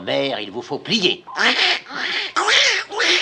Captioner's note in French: cri de canard